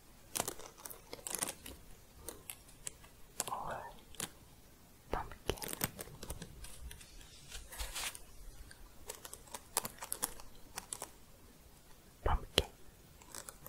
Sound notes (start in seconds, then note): 6.3 shuffling, then jingling